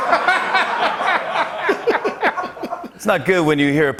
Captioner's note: laughter